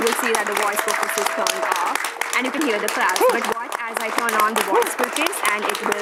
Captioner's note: applause